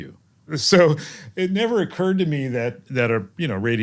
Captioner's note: laugh